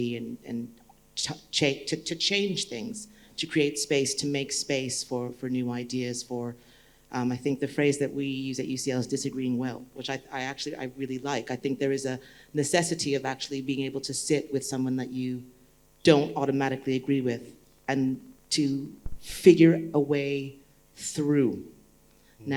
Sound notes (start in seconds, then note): none